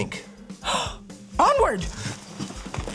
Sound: gasps

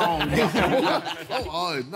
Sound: all laughing

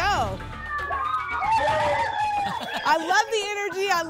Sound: cheering

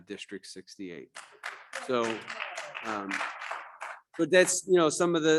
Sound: audience clapping

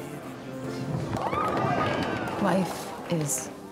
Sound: cheering

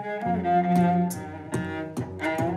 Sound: beatboxing

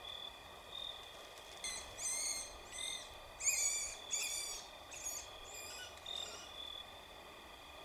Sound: Woodpecker cries

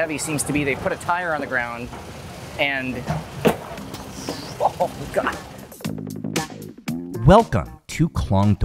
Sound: groans

